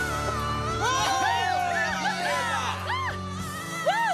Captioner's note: cheering